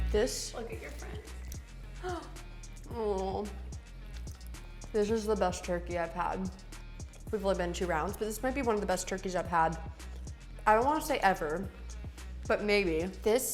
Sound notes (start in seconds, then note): 2.1 gasps